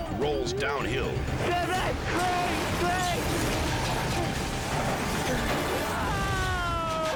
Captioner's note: person screams indistinctly